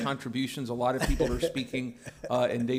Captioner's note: laughter